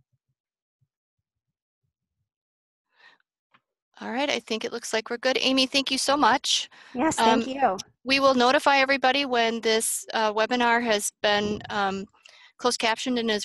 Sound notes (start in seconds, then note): 1.8 silence